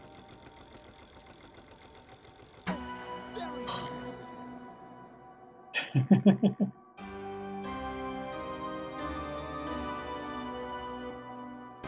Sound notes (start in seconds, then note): 2.6 organ plays B; 3.5 sighs; 5.7 chuckles; 7.0 organ plays G C D♯ D B